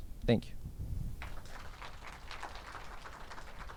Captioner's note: audience applauds